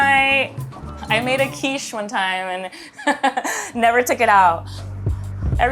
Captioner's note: laughs